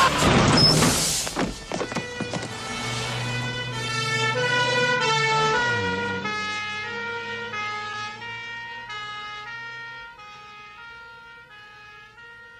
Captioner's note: police car and ambulance sirens